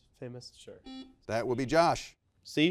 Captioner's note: buzzer beeps